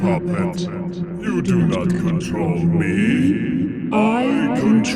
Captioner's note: godly voice